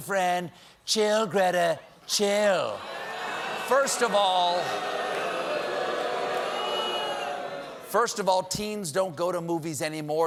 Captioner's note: booing